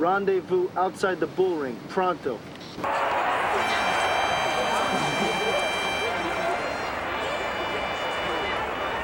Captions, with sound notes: rendezvous outside the bull ring, pronto. (crowd cheering)